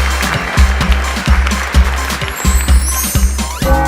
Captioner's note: applause